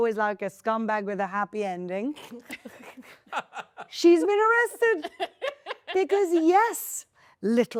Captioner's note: laughing